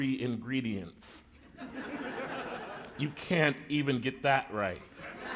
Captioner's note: laughter; laughter